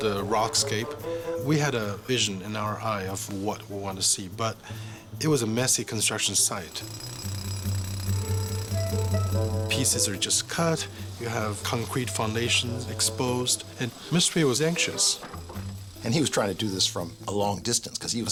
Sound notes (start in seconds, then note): 6.7 jackhammer rattling